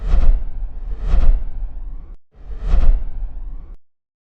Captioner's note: whooshing air